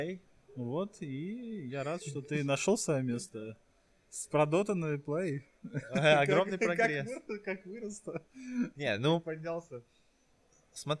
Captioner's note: sarcasm; laughs